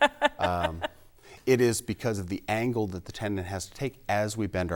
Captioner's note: laughing